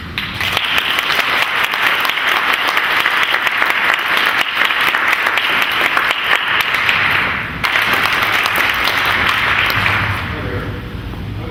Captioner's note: clapping